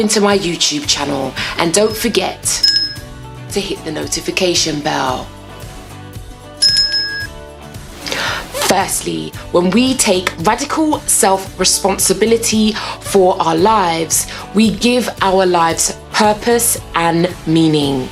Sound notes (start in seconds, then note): 2.6 bell dings; 6.6 bell dings